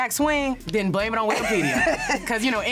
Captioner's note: laughs